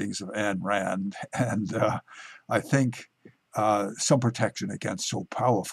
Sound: laughing

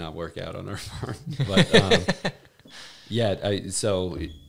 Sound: laughing

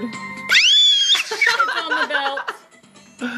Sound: screaming

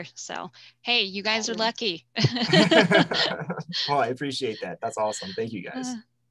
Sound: laughing; laughs

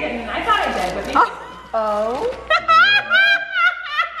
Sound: laughing

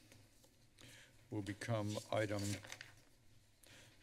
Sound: paper rustling sound

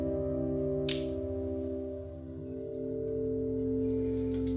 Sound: knife clicks

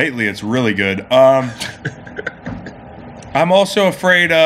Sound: laughs

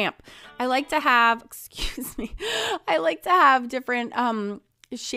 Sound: chuckling

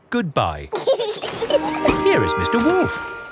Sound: both laughing

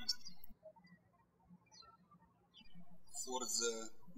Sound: birds chirping

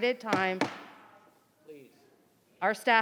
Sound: gavel banging

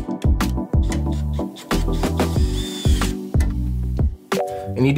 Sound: relaxed music; drill hums; relaxed music

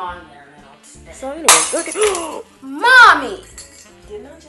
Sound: glass breaks

